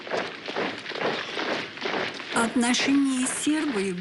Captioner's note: sound of troops marching